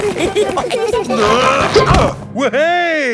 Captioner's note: all giggling; grunting